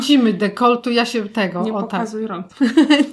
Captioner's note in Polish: śmiech